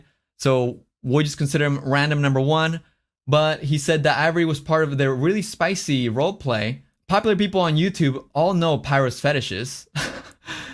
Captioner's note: laughs